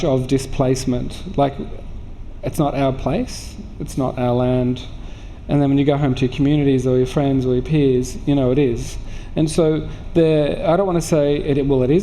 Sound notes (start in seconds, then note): none